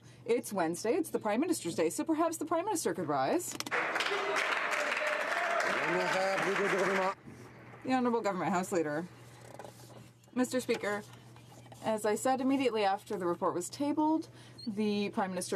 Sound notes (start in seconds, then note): 7.9 some Applause